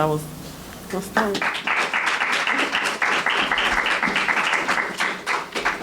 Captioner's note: audience clapping